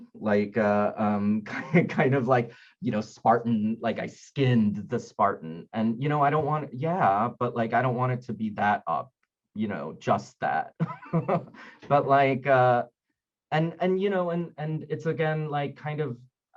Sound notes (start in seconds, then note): 11.1 laughing